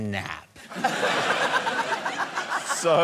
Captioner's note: laughter